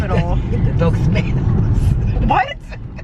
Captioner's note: laughing